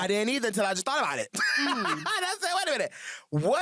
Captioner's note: laughs